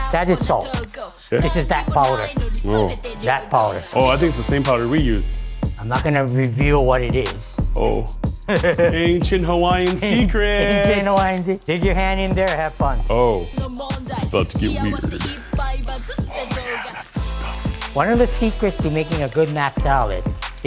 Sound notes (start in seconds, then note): 8.4 laughs